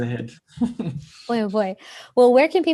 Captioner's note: laughs